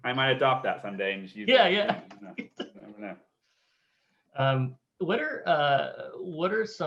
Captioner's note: laughs